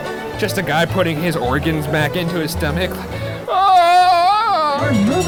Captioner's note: yells